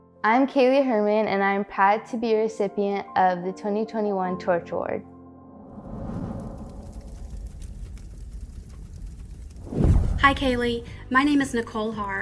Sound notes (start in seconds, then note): 5.7 torch blazing